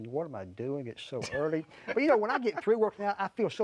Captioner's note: laughing